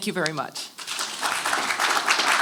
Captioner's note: applause